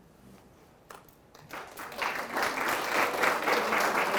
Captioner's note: applause